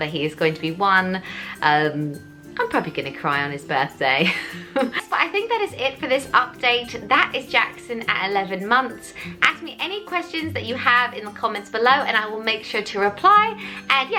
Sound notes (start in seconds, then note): 4.2 laughs